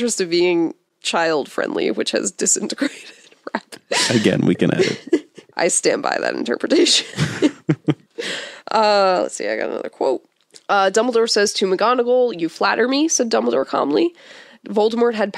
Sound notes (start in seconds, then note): 7.0 both laugh